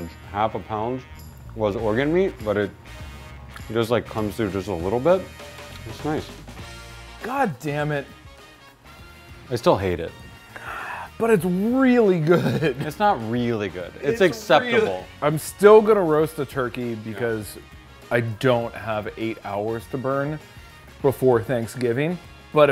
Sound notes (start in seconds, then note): 10.4 sighs